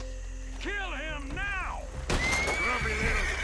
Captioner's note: a shootout starts